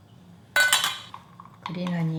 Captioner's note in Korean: 달그락 소리